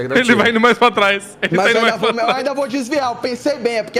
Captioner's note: laughs